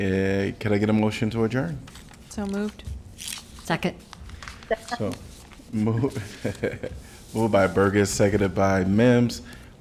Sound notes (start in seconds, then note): 6.0 laughter